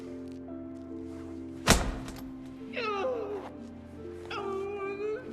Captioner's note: hitting